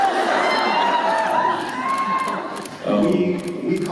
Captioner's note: cheers